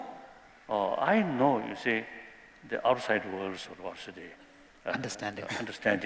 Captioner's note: non-english